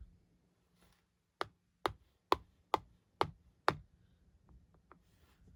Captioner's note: sound of tapping as the kitty moves